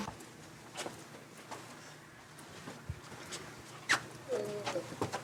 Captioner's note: footsteps